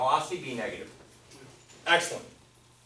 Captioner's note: voiceover